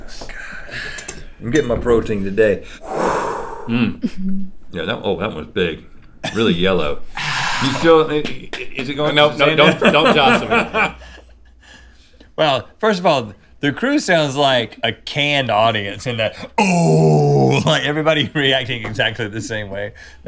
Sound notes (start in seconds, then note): 2.6 exhales; 7.2 exhale; 9.6 Rhett laughs